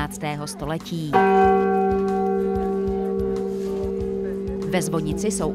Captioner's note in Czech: zvuk zvonu